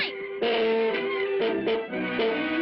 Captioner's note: honking